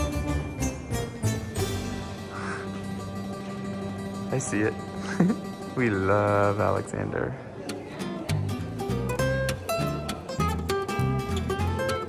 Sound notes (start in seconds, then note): 0.0 bright music; 5.0 laughs; 8.2 bright music